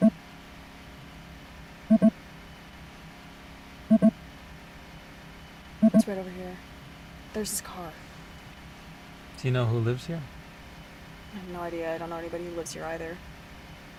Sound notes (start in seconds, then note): none